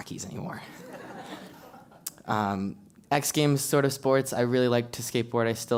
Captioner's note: laugh